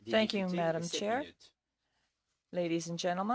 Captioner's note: speaking in French